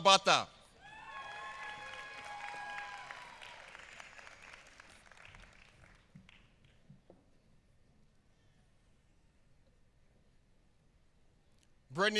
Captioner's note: applause